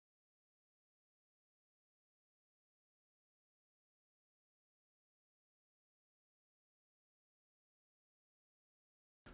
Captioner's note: silence